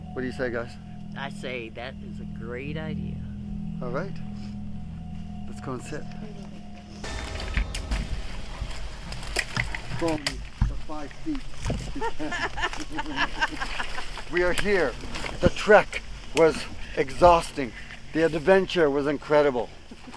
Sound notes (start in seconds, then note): 7.0 suspenseful music; 11.9 all laugh